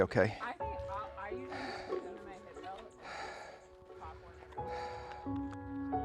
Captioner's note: heavy breathing